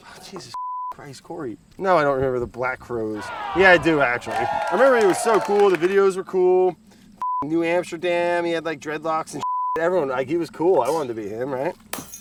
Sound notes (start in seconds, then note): 3.1 audience cheering; 3.2 audience sighs